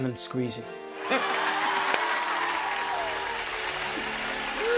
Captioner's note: cheers and applause